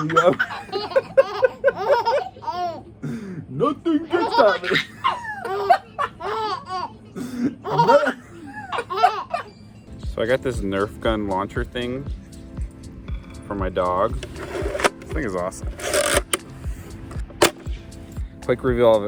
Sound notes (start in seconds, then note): 0.0 baby laughter; 4.0 baby laughter; 15.8 launcher cocking; 17.4 launcher firing